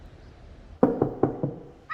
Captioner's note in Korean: 똑똑똑